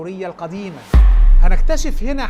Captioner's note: sound effects